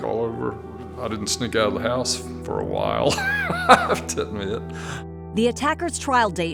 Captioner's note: laughs